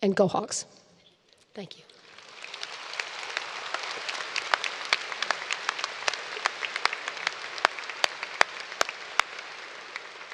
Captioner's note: applause